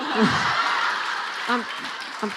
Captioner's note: laughing